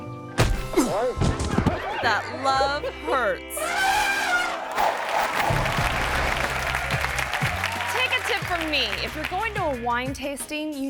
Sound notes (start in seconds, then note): 3.6 elephant trumpeting; 4.3 audience applauding